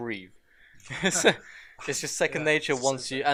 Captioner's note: laughter